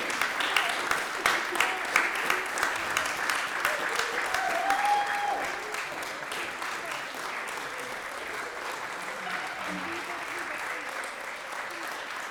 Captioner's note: applause